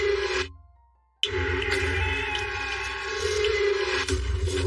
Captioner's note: women screami